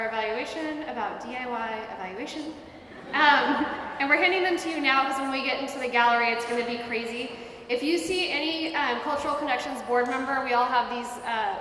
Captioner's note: laughter